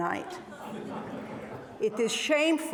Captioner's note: audience laughs